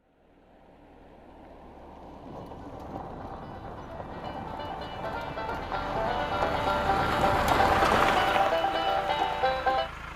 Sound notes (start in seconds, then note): 1.8 car pulls to a stop; 9.9 music shuts off